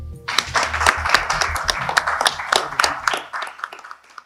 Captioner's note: χειροκρότημα